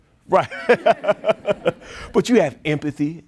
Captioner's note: audience laughing